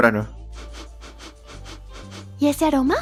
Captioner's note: sniff sniff